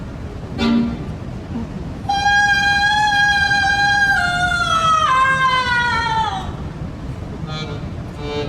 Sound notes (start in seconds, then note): 0.0 accordion music; 2.2 screaming; 7.4 accordion music